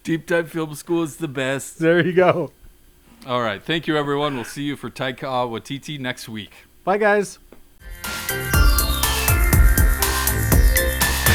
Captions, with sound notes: - Deep Dive Film School is the best. - There you go. (laughs) - All right. Thank you everyone. We'll see you for Taika Waititi next week. - Bye guys! (upbeat music)